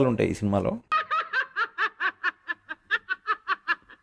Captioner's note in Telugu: నవ్వు